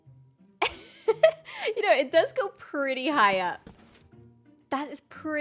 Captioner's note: laughs